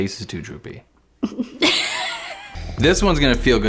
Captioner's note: laughs